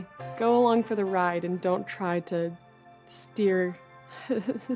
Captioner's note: laughs softly